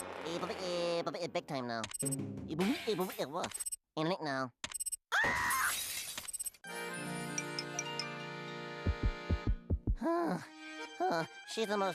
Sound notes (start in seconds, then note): 2.5 stutters; 5.1 screaming; 10.1 gasping